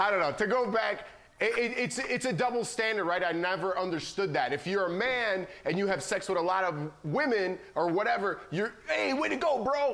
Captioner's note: laughter